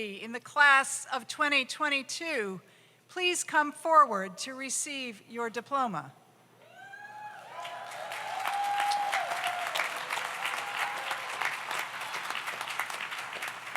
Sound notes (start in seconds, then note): 6.7 audience cheers; 7.4 audience applauds